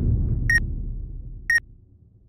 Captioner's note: bomb starts ticking down